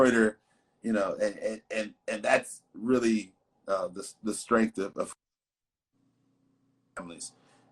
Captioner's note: audio warbling